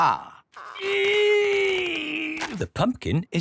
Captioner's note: straining